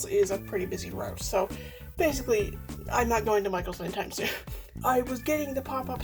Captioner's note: laughs